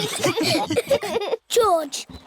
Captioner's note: snorts; laughter